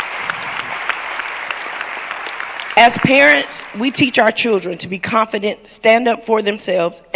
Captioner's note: applause